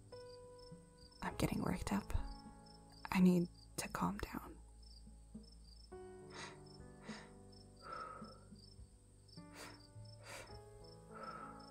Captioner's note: quick, deep breaths